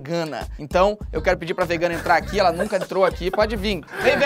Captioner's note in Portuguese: risadas